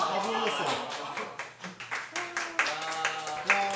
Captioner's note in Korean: 환호갈채와 함께 시작